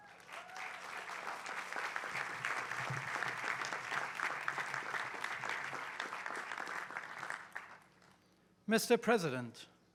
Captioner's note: applause